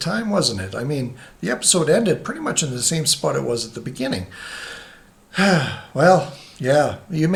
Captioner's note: sighs